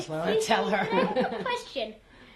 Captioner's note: laughs